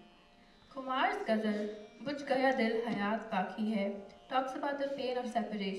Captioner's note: non-english speech